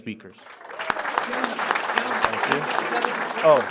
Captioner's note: applause